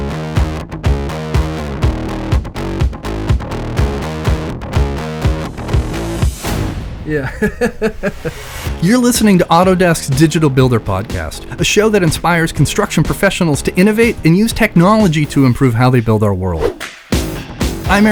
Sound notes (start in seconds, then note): 0.1 upbeat music; 7.1 laughs